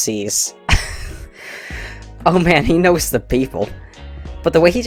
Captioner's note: wheeze